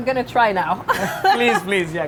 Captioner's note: laughing